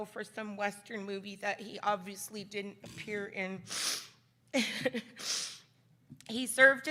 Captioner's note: giggles